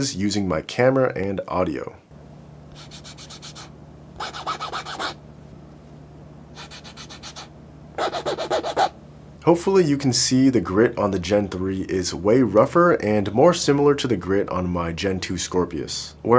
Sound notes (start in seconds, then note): 4.2 fingers scratching